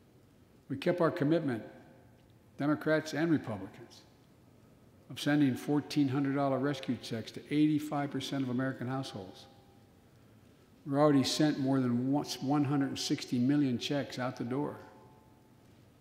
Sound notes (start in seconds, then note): none